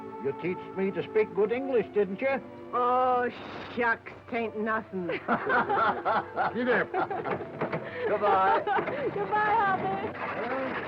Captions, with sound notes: You teached me to speak good English, didn't you? - Oh, shucks, it ain't nothing. (all laughing) - Giddy up. - Goodbye. - Goodbye, Hoppy.